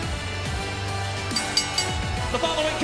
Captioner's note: bell ringing